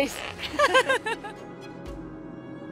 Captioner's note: laughs